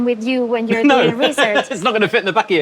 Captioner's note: laughs